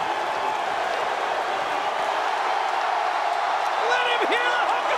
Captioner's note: crowd cheering